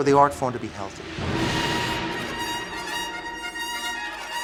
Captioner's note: scattered horns